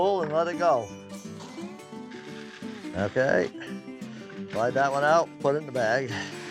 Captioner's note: grain falling